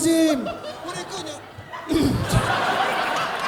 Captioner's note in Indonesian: berdehem